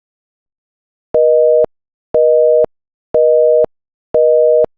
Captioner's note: busy Signal